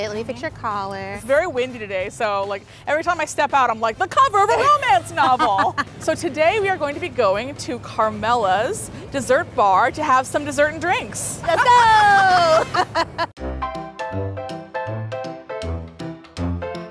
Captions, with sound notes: Let me fix your collar. - It's very windy today so every time I step out I'm like the cover of a romance novel. So today we are going to be going to Carmella's Dessert Bar to have some dessert and drinks. - Let's go! (both laughing) (cheerful piano music)